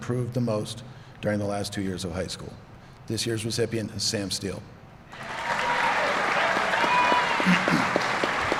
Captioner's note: applause